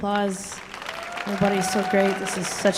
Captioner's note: audience cheering and applauding